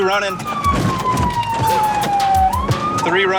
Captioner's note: police siren